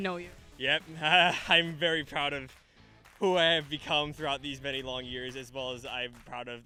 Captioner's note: laughs